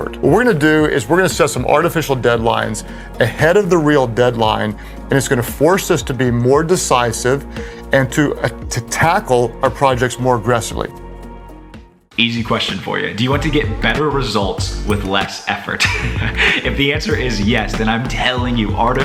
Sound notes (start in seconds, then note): 13.9 soft music; 15.4 chuckling